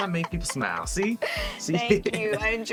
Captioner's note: laughs